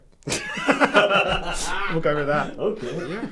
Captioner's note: laughing